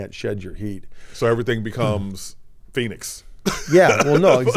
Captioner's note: laughs